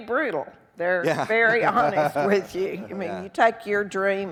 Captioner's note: laughing